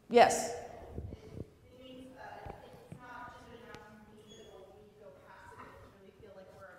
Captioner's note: respondent speaking off camera unamplified